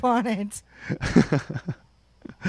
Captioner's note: chuckles